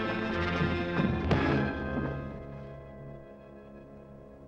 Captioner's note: hook thuds